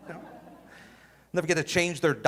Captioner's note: audience laughing